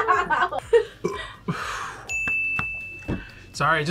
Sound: laughs; burps

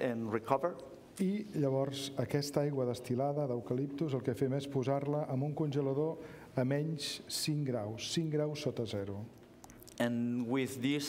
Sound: speaking catalan

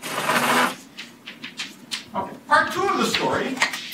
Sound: drill buzzing

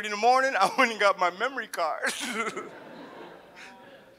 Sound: laughs; audience laughs

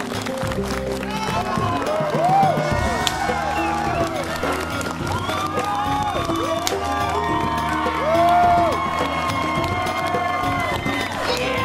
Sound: clapping and Cheering

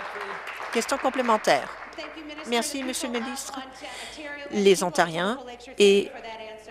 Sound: applause

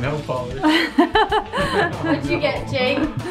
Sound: laughs

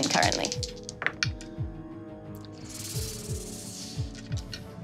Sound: dice clattering

